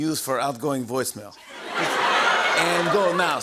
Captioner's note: laughter